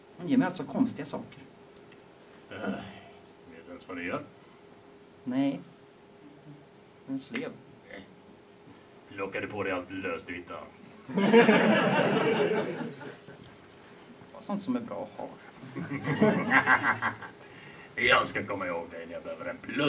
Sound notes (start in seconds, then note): 2.4 sighs; 11.0 audience laughs